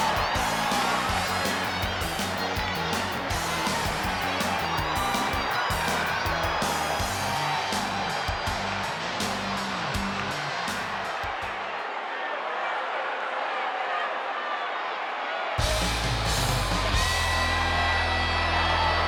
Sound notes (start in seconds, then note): 14.1 crowd shout; 15.6 rock music